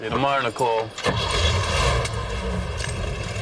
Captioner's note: engine revving